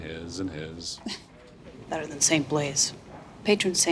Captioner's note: chuckles